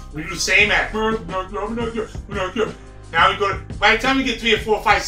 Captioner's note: mumbling, imitates deep voice